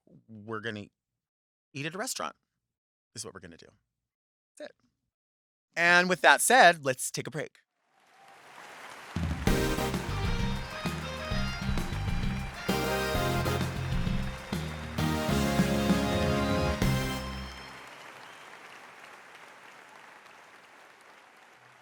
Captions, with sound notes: we're gonna eat at a restaurant, is what we're gonna do. That's it. And with that said, let's take a break. (audience applauds) (upbeat rock music) (audience applauds)